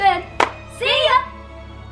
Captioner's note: claps